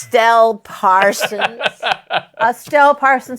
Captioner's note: laughs